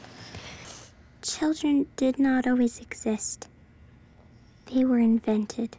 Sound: voiceover

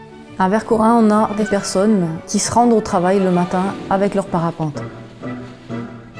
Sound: speaking in a foreign language

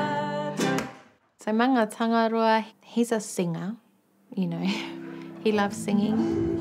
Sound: chuckles

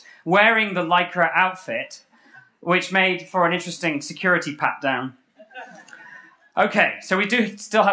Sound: laughter

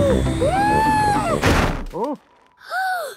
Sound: snowy crashing

